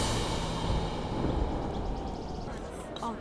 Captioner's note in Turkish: Rüzgâr sesi